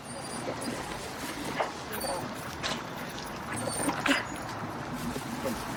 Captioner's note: dog whining